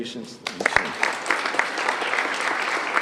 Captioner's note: applause